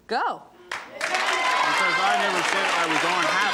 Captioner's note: applause